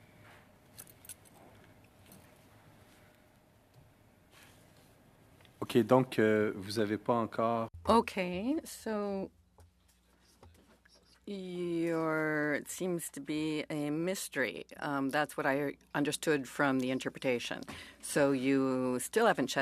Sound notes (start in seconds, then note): 10.2 speaking French